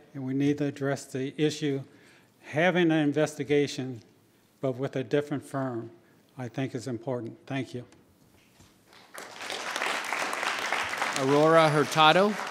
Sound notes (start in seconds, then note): 8.9 audience applauding